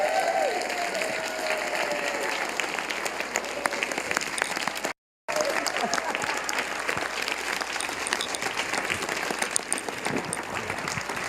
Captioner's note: applause